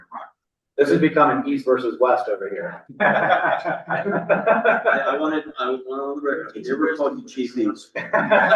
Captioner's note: laughter; laughter